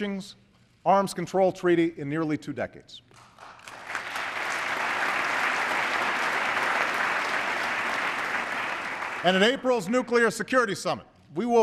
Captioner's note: applause